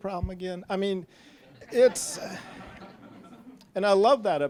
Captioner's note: audience laughing